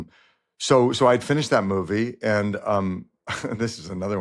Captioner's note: chuckles